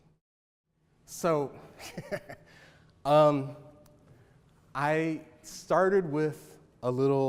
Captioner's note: laughs